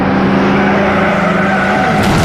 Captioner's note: tires screeching